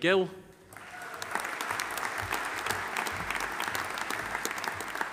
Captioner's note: audience applauding